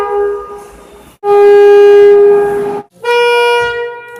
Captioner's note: air Horn